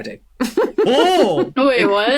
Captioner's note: giggles